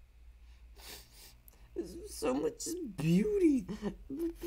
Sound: sniff

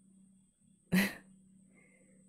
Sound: chuckles

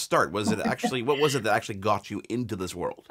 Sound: laughing

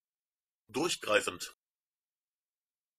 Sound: fast Pronunciation

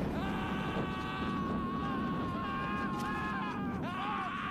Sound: screaming

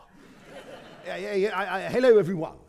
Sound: audience laughing

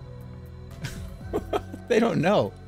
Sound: chuckles

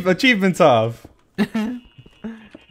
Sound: chuckles

